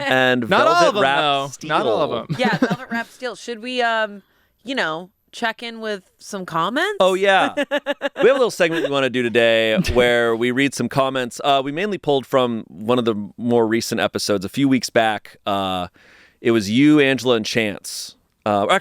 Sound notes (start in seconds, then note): 7.1 laughs